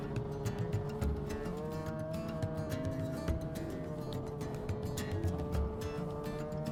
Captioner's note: revving continues